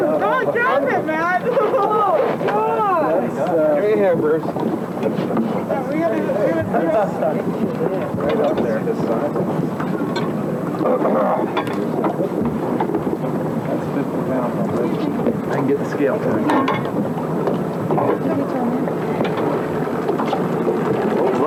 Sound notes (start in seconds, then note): 6.8 water sounds; 17.3 water sounds